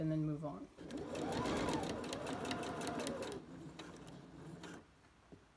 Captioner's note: sewing machine running